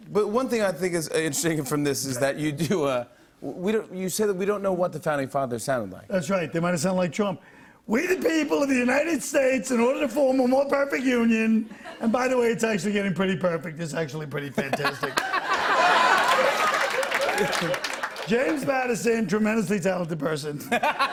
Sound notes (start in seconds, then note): 14.6 laughter